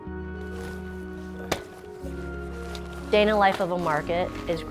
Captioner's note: canopy crinkles; grunts